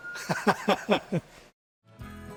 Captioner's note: laughs